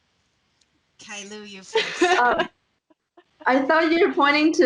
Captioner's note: laughing